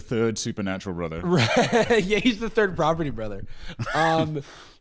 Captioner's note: laughing